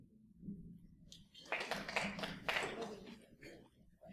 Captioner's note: applause